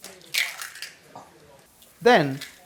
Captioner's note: egg cracking